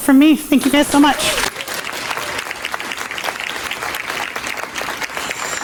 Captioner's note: audience applauding